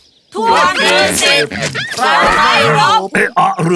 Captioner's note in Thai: เสียงถูเอี๊ยดอ๊าด